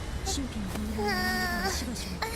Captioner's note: groan